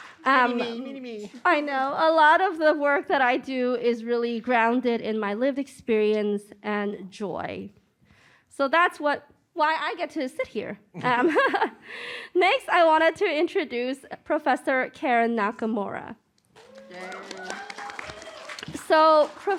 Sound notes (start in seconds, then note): 11.0 laughter; 16.5 applause